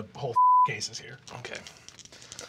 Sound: beeping

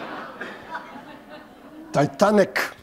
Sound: laughter

